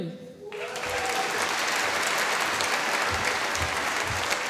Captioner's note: applause